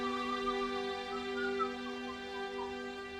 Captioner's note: whistling